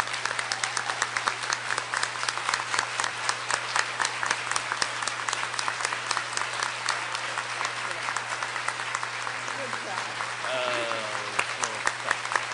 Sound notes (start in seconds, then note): 0.0 applause